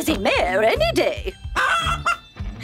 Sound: clucking

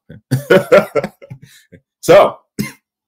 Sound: laughs

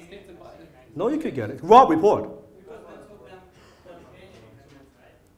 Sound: multiple audience members speaking

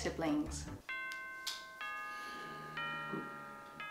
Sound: bells

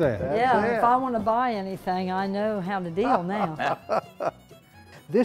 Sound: laughter

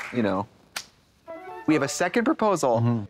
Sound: bright chime

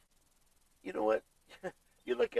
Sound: fake laughs

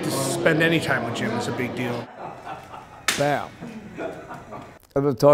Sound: laughter

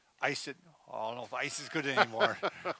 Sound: laughs

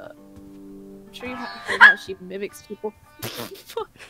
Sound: screaming

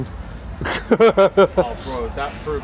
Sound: laughs

